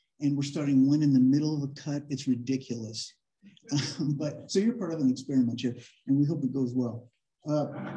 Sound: laughter

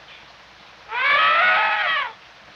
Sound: elephant Trumpet sound

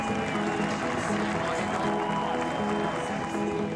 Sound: passengers clap

